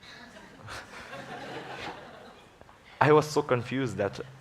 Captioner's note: laughter